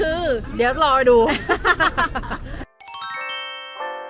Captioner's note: laughing